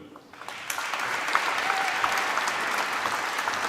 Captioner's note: applause